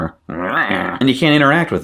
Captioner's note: growls